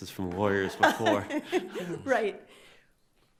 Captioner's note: laughs